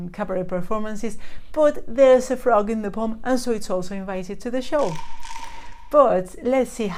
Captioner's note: frog croaks